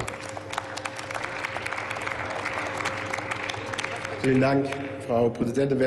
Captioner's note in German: Applaus